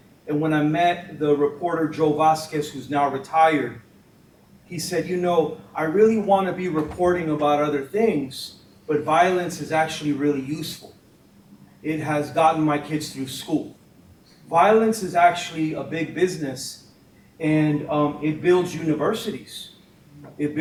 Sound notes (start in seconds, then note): none